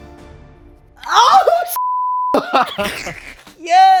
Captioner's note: beep; both laughing